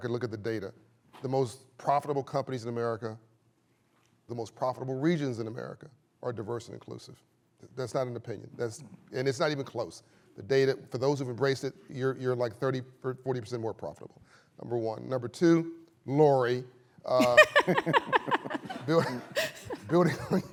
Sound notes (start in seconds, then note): 17.2 laughter